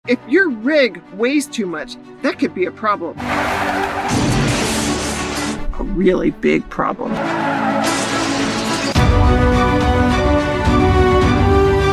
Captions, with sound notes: - If your rig weighs too much, that could be a problem. (vehicle screeching and crashing) A really big problem. (vehicle screeching and crashing) (suspenseful music)